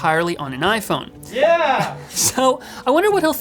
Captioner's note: laughs